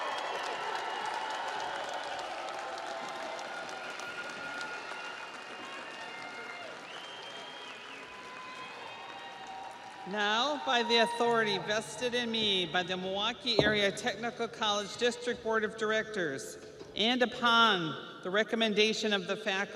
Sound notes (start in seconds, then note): 1.6 audience applauds; 1.6 audience cheers